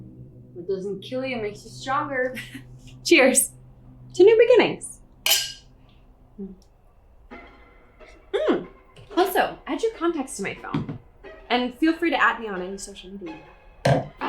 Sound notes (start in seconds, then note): 5.2 glasses clink